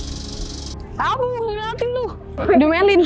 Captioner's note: shout